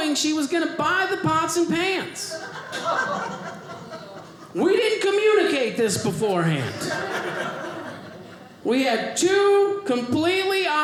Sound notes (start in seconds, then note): 2.3 audience laughing; 6.5 audience laughing